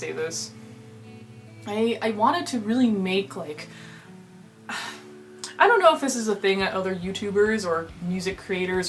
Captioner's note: ahh